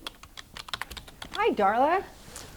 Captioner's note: typing